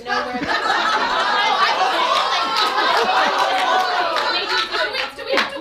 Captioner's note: audience laughs